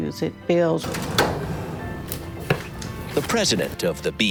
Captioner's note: metal drawer sliding open